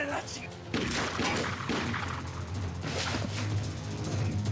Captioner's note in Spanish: siguen los disparos